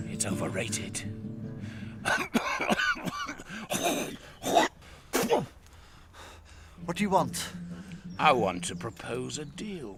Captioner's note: coughing and hacking